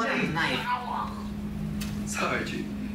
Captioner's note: groans